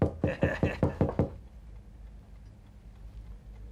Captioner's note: chuckles